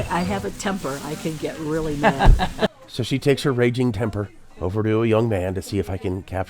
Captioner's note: laughter